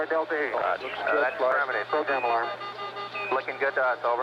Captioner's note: alarm beeping